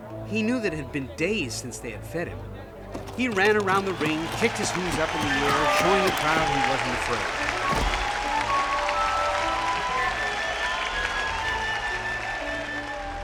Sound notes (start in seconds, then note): 8.2 la multitud le aclama